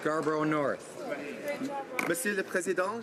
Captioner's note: speaking indigenous language